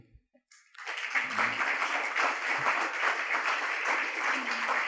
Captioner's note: crowd applauding